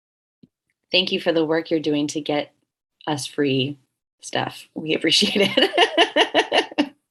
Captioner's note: laughing